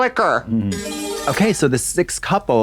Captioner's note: bright chime